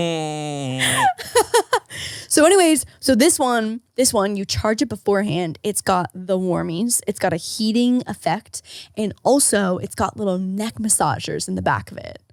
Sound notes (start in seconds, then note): 0.7 laughing